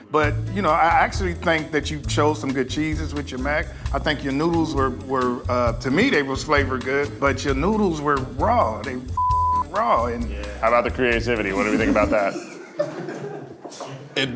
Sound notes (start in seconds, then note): 9.1 beep; 11.5 laughs